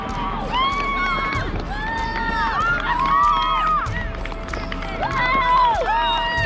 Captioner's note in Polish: Aplauz